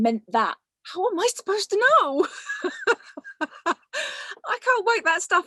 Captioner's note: laughs